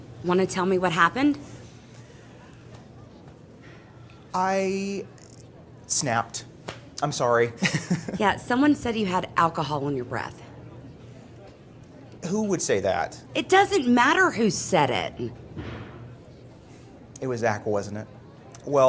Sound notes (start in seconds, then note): 7.6 Justin laughing